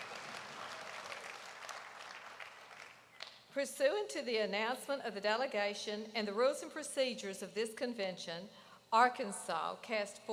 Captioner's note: applause